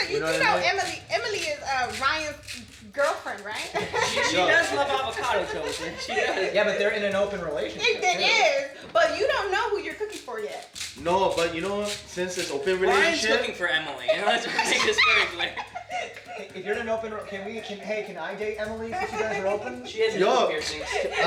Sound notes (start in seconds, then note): 14.0 laughs; 14.3 murmuring